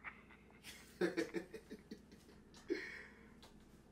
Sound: both Laughing

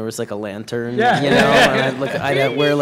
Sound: laughter

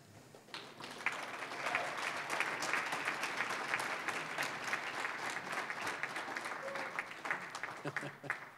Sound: applause

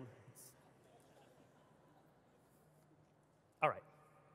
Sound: audience laughing

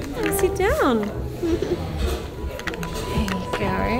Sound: laughs

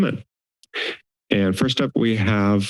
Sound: inhales

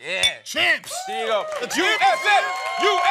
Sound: cheering

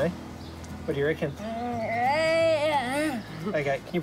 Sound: vocalises excitedly

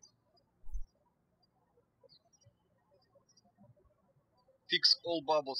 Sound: birds chirping

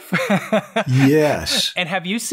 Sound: laughs

